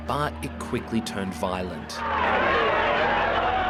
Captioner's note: shouting